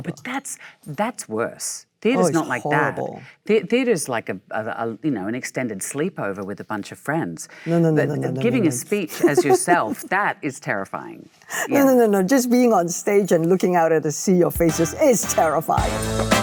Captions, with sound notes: - But that's worse, theater's not like that. - Oh it's horrible. - Theater's like an extended sleepover with a bunch of friends. - No no no no no no no no. - But giving a speech as yourself, (Michelle laughs) that is terrifying. - No no no no, just being on stage and looking out at the sea of faces (upbeat music) is terrifying.